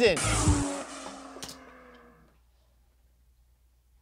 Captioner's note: F1 engine revving